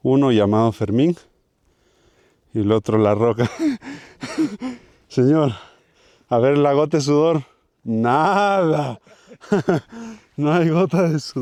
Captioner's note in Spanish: risas